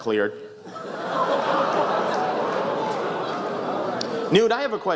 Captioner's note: oohs, laughter